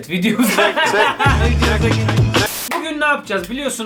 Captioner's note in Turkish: Gülüyorlar